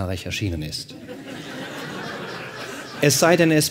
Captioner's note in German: Lachen